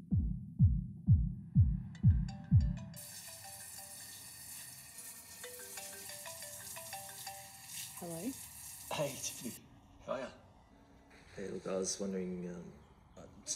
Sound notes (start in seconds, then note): 2.3 phone ringing; 3.0 water running